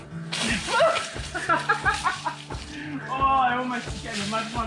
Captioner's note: mud splashing; laughing